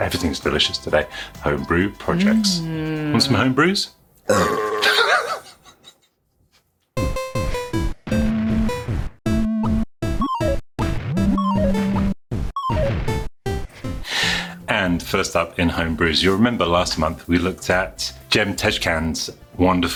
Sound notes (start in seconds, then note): 4.2 goat burping; 7.4 8 bit music